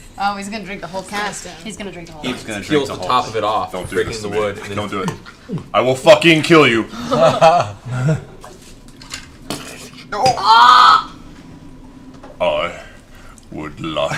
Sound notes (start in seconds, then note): 6.3 gulps; 8.6 shattering noise